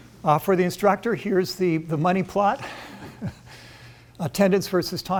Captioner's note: chuckles